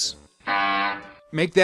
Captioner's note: Harpo's Honk FX